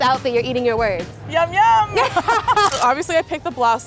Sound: both laughing

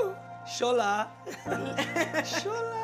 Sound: speaking foreign language; laughter; speaking foreign language

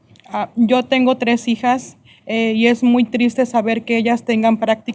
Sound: speaking spanish

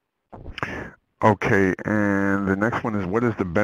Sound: voiceover

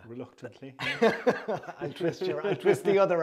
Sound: laughter

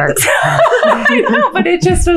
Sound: all laughing

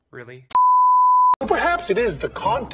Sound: TV Color Bars Sound Effect

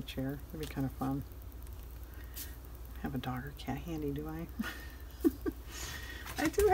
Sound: laughs

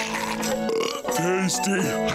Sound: burping

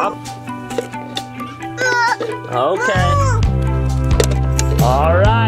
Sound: upbeat music; child whines

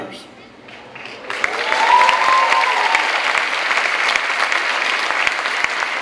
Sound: clapping and cheering

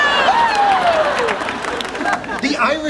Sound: audience laughing

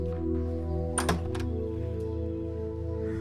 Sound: door opens

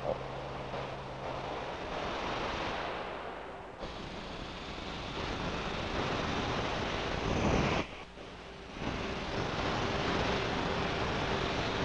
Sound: sound of nitrogen jets firing

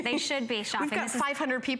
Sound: laughter

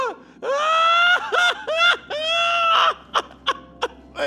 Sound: loud laughter

